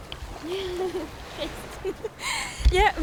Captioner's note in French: rires